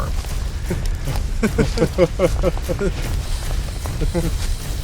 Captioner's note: laughing